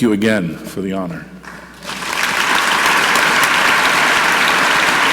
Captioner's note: audience clapping